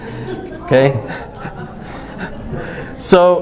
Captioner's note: audience groans